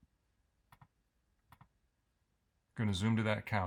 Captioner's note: mouse clicks